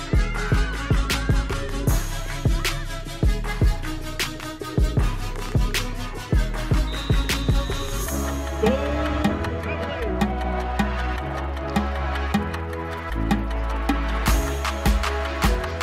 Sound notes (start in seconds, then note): 0.1 shouts; 6.6 whistle blows